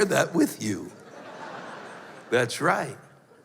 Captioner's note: laughter